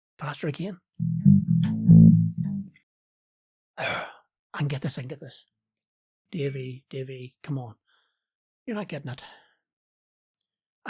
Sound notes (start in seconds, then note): 3.8 sigh